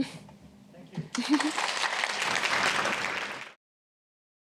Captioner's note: applause